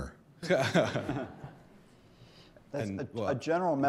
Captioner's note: laugh